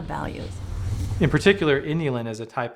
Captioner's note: whooshing